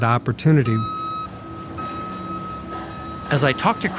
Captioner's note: truck beeping